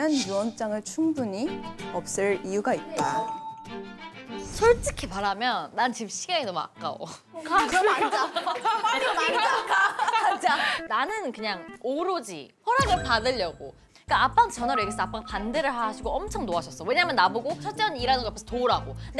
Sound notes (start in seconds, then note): 9.6 laughing